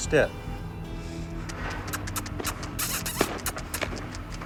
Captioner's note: clicking tongue